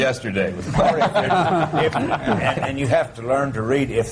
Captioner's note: laughter